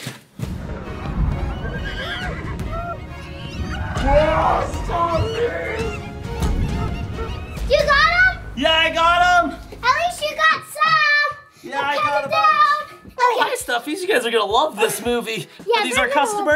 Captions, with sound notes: (dramatic music) (animals squeak) (Dad exclaims) (animals squeak) - You got 'em? - Yeah, I got 'em! - At least you got some! - Yeah, I got a bunch- - I'm coming down. - Oh, hi stuffies, you guys are gonna love this movie. - Yeah, they're gonna love-